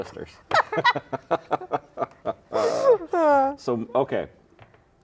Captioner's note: laughing